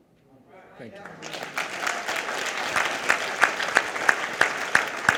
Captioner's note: audience applause